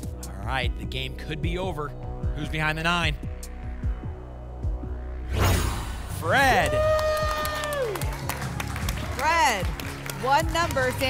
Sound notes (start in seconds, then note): 5.2 whoosh; 6.3 applause and cheering